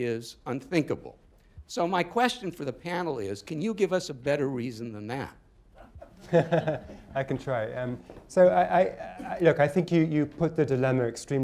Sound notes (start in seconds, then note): 5.8 chuckles; 5.8 laughter